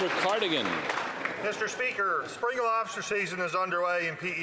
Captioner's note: some Applause